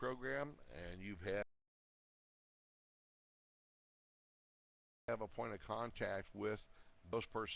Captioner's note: audio drops